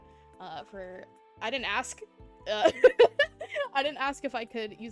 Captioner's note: giggles